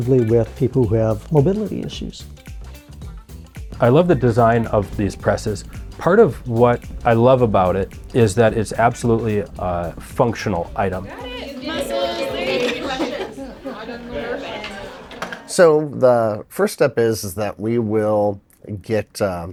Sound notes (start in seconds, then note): 2.7 upbeat jazzy music continues; 13.0 ladies chattering